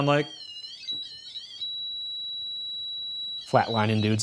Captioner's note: continuous beeping